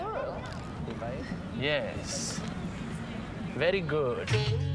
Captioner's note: 喋喋不休; chattering